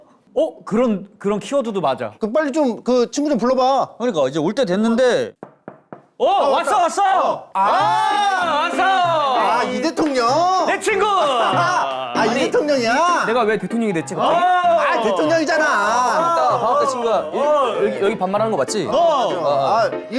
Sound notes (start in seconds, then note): 5.3 knocking politely